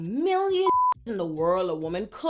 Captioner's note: beep